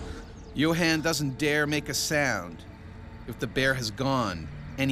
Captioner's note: voiceover